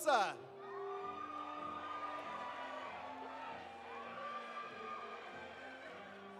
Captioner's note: audience cheering; audience applauding